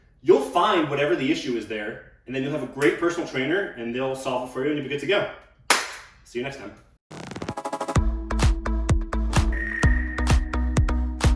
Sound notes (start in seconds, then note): 5.7 claps; 7.2 upbeat music plays